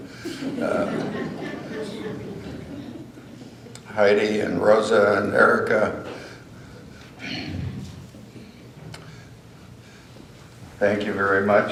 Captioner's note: laughter